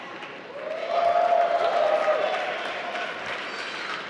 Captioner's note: applause